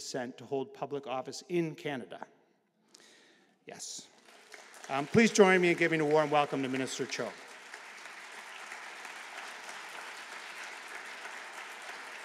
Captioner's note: applause